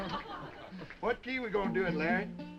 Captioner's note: all laughing; Boatwhistle laughing